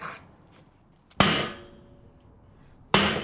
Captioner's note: bangs